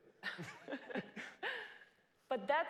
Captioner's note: laugh